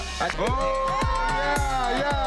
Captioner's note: crowd cheering